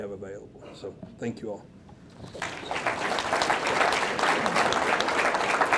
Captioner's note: audience clapping